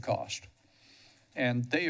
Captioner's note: pause